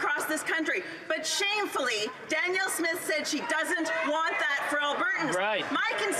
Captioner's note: some Applause